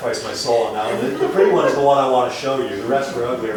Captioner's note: laughter